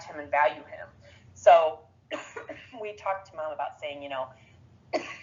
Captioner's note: coughs